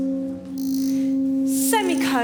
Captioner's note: voices echo